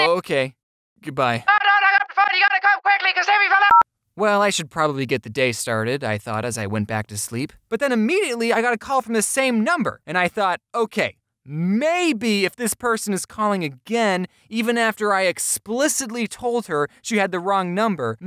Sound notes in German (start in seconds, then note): 3.7 piep oder so